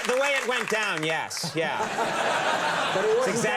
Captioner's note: audience laughing; Steve laughs